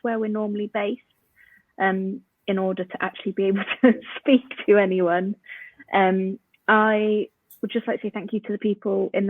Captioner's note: laughs